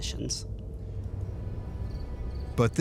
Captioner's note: eerie music; crickets chirping